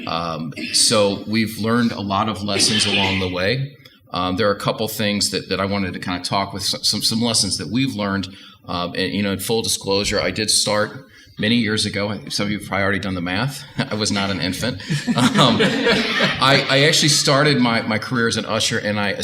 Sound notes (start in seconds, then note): 13.9 audience Laughter